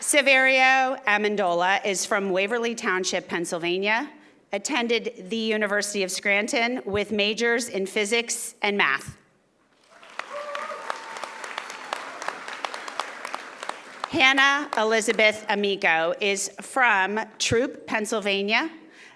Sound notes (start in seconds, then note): 9.8 audience applauding